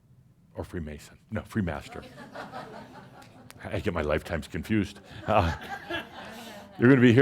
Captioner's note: some chuckles; more chuckles